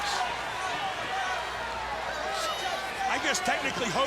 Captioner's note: all chattering